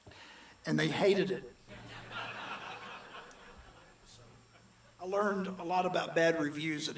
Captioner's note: audience laughs